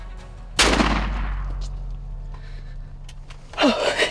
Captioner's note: gunshot; laughter